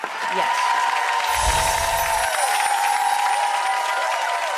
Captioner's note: applause